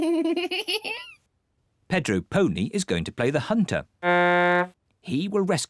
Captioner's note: giggles; blows horn